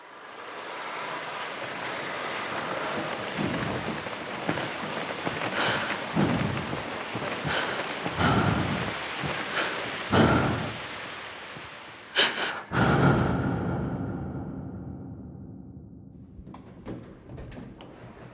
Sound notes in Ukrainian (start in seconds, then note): 0.3 звуки мегаполіса, звуки кроків і клацання коліщаток; 5.9 звуки дихання